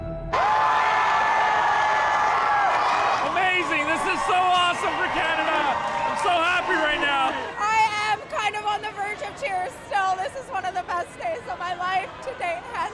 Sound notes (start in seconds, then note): 7.3 cheers and applause